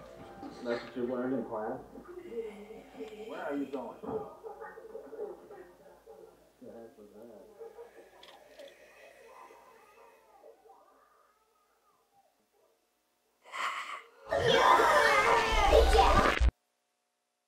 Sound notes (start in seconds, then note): 2.2 breathing sound; 7.4 raspy breathing sound; 13.5 sudden sharp breath